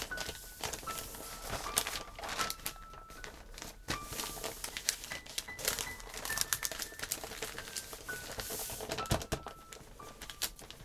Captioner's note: paper rustles